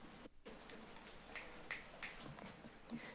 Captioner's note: snapping fingers